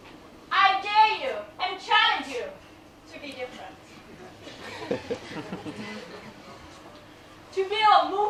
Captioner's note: laughter